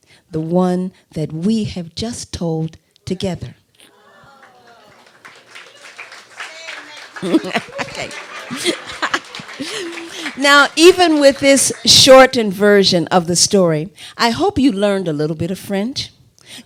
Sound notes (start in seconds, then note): 3.9 applause; 8.9 laughter